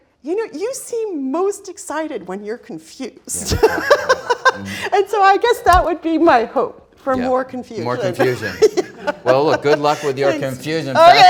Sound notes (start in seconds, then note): 3.3 laughs